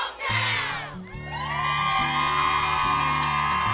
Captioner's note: cheering